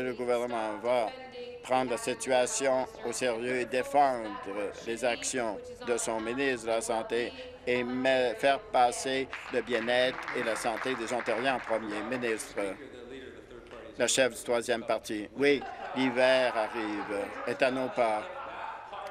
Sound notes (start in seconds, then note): 12.6 applause